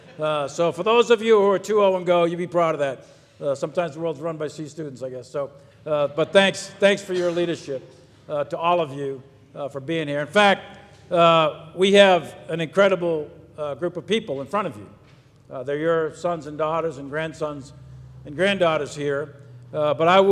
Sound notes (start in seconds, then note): 0.0 audience laughs; 5.7 people laugh